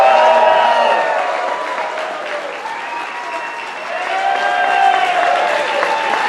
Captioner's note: audience applauding and cheering